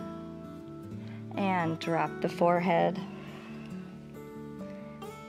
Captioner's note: exhales